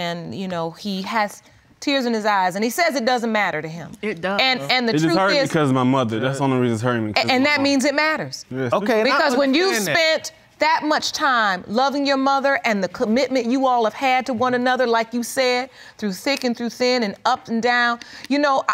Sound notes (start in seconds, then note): none